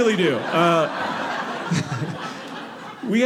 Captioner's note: audience laughing